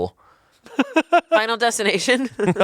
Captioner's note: laughs